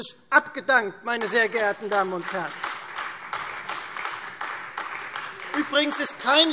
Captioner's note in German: Beifall Freie Demokraten und AfD